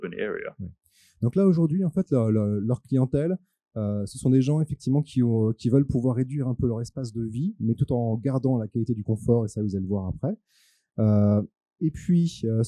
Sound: translating into french

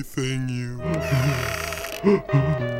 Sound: whimpering

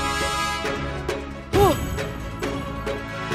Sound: sighs

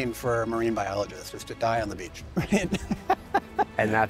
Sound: laughs

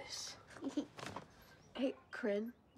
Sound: giggle

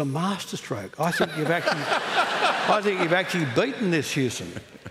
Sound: laughter

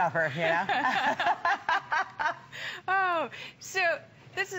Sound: laughter

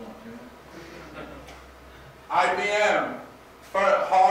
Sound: students laugh

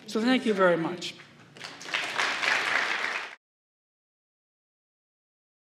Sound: applause

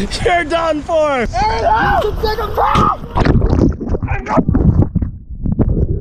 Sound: splashing and shouting

